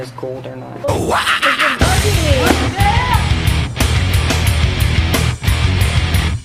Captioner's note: ohhwahahaha